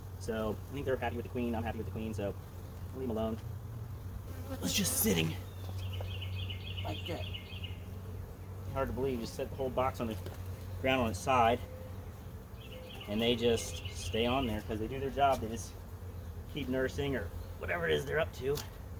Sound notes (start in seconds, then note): 4.1 bees buzzing; 7.4 birds chirping